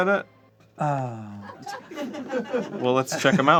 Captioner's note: uncomfortable crew laughter